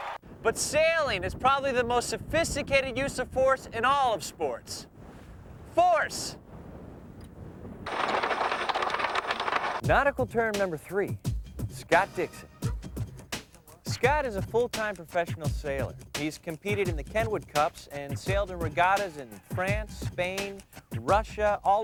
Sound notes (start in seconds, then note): 7.9 rapid clanking